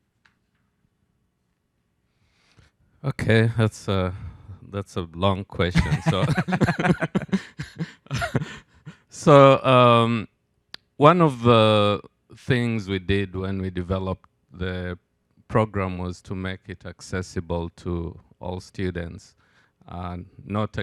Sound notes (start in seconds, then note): 5.7 and host laughing